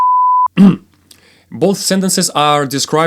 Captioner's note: cough